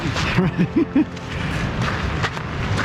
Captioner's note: laughs